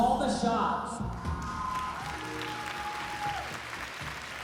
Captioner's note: applause, cheering